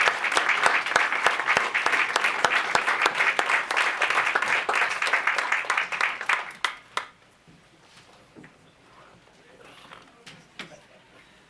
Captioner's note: applause